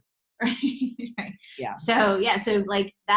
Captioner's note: laughs